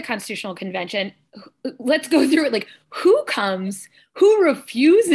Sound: laughter

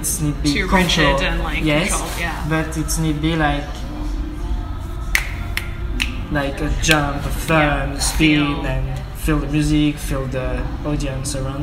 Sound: snaps

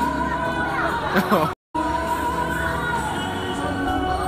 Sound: laughs

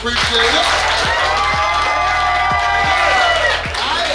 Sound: crowd cheering

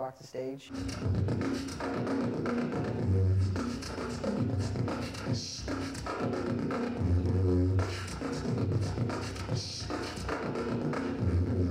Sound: beatboxing

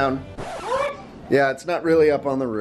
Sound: record scratch

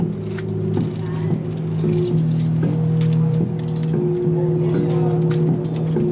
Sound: mellow synth music; film rustles loudly

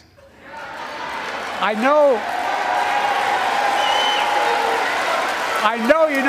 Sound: applause

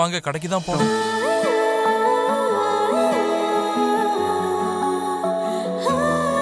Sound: humming

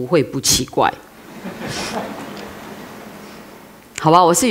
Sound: laughter

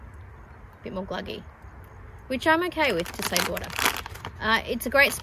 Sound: packet crinkles more

